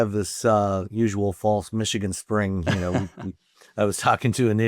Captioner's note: laughs